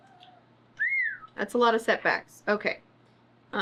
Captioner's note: whistles